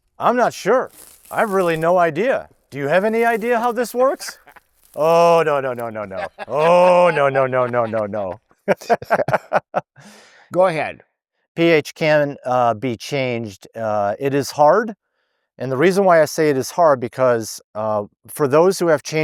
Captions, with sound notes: I'm not sure. I have really no idea. Do you have any idea how this works? [laughing] Oh, no, no, no, no, no. [laughing] Oh, no, no, no, no, no, no. [laughing] Go ahead. pH can be changed. It is hard, and the reason why I say it is hard, because for those who have